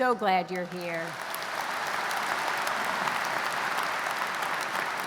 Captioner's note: audience applauds